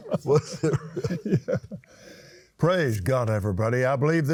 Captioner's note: laughs